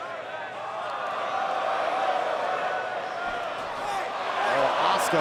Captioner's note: crowd exclaims